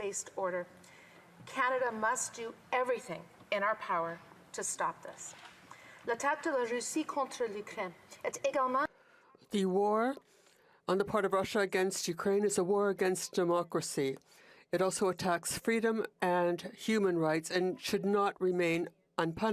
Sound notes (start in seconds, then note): 10.4 speaking in FRENCH